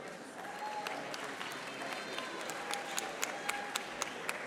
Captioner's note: audience applauding